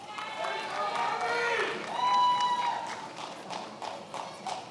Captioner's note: attendees applauding